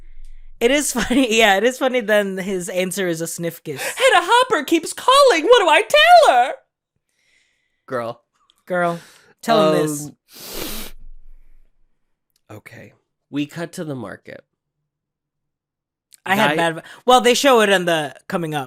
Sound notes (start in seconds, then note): 10.2 sniff